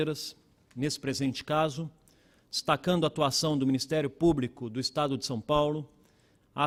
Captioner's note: speaking Portugese